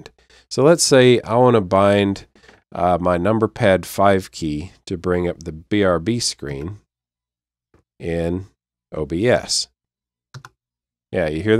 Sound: click

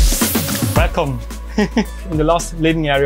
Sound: laughing

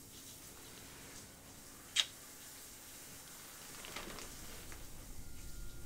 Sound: kiss smacking

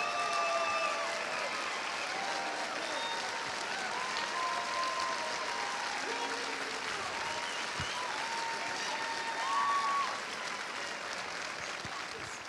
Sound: cheers and applause

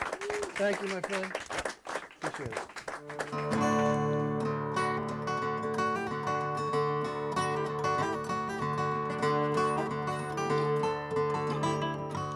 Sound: applause

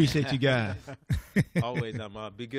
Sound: laughter

